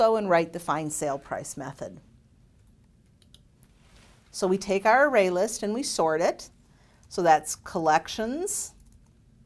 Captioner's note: typing